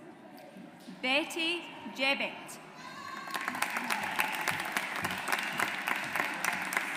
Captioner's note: audience applauds